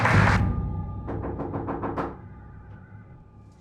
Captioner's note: knocks